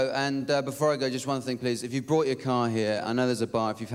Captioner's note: none